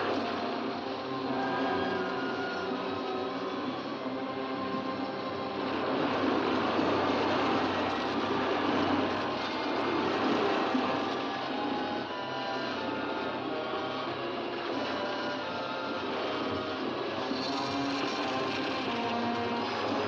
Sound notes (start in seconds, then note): 0.0 ominous music; 0.0 rushing water; 0.2 ominous music; 5.6 rushing water; 5.6 suspenseful music